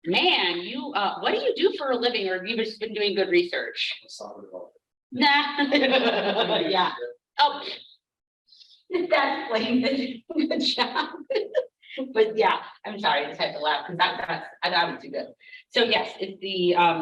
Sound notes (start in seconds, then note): 5.6 laughs